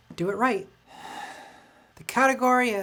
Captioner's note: sigh